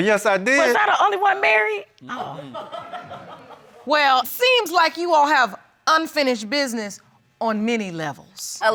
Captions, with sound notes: Oh, yes, I did. Was I the only one married? (LAUGHTER) Well, seems like you all have unfinished business on many levels.